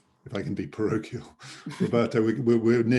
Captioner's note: laughing